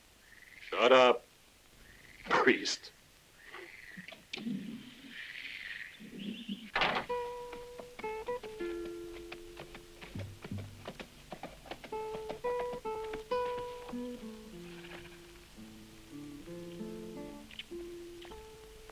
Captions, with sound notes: - Shut up, priest. (frogs croaking) (gentle music) (hooves clacking)